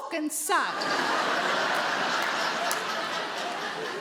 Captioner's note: audience laughs